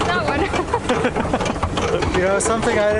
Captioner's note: laughs